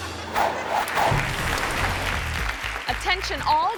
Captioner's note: audience applauding